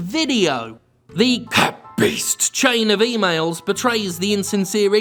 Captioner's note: demon voice